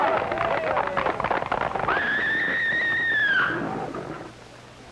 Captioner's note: audience applauding; horse neighing